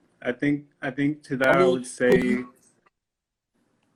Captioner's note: glitch